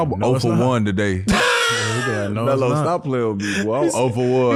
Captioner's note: laughing